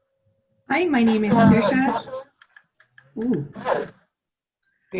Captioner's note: distorted feedback